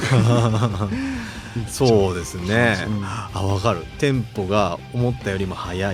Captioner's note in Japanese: 笑い